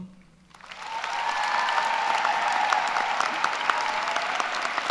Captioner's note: cheers and applause